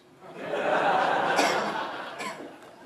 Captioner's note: audience laughs